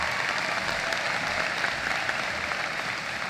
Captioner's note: applause